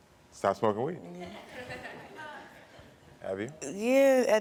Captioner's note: laughs